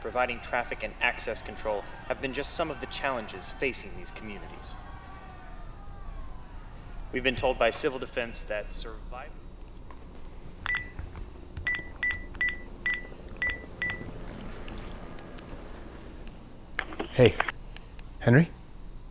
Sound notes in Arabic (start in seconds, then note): 5.4 الناس يصرخون; 10.0 شفرات المروحية تدور